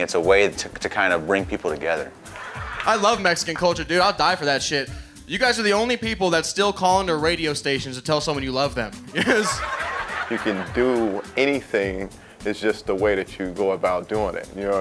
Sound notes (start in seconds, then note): 9.2 audience laughing